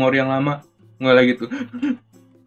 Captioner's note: crying